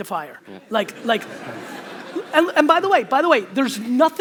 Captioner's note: audience laughter